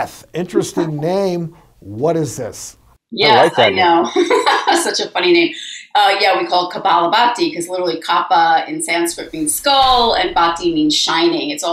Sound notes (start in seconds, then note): 3.2 laughs